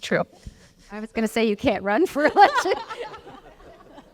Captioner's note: laugh